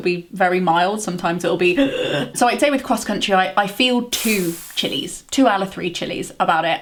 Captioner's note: gasps